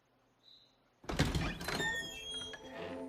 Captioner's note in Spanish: Sonido al abrir la puerta